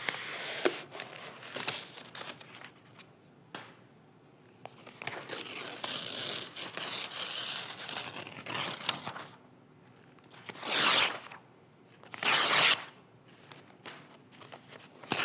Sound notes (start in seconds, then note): 3.4 page thudding; 4.9 pages ripping